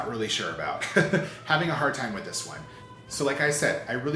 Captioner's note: chuckles